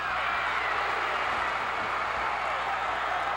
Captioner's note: cheers